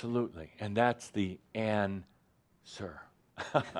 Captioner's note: some laughter